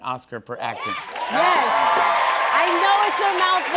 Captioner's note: cheers and applause